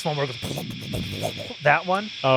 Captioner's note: imitates bass amp